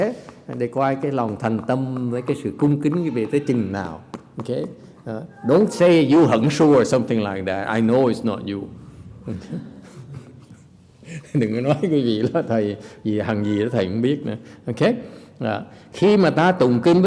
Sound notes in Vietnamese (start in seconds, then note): 8.9 laughter